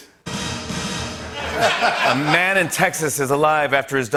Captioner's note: laughter